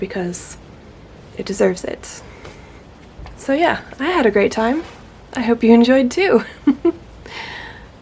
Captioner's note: gasps